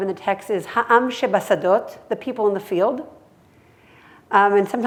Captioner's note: hebrew